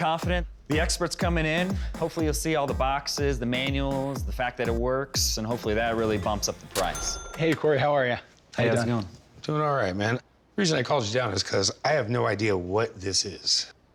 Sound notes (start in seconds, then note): none